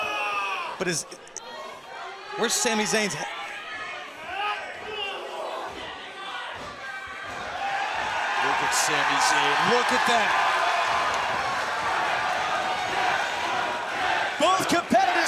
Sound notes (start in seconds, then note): 0.0 crowd chatter; 5.3 crowd chatter; 7.6 crowd cheering; 12.2 crowd cheering